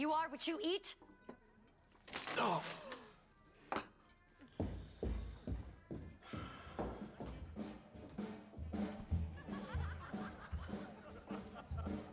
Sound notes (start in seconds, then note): 5.1 footsteps receding; 9.2 customers laughing